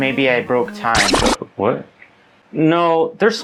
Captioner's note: record scratch